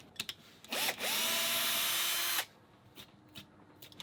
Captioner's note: drill whirs